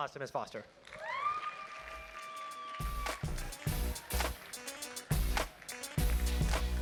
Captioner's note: crowd cheers and applauds; upbeat music